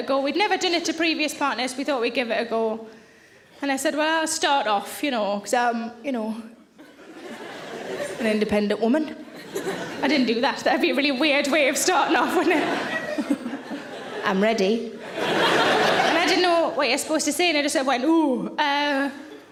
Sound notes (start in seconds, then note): 6.8 audience laughing; 12.2 laughing; 14.9 audience laughing